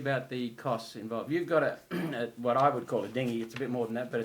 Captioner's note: clears throat